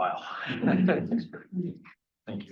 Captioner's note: everyone laughing